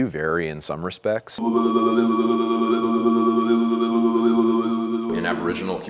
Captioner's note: imitating didgeridoo sounds